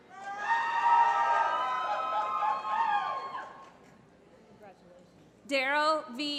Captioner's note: applause